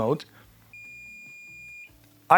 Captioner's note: beeping